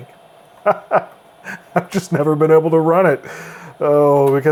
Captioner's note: laughs